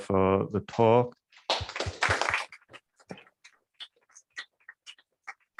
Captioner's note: applause